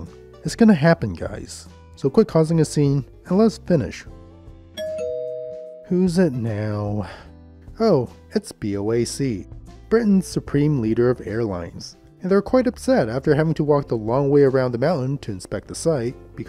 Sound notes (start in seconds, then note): 4.8 ding Dong